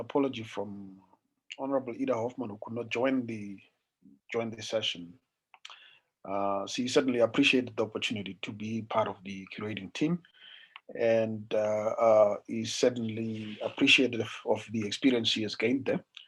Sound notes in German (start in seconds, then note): 10.6 in Deutsch